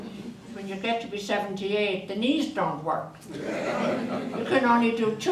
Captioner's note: audience laughter; audience laughter